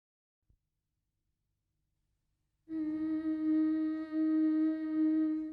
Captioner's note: woman humming